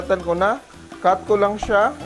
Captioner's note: sizzle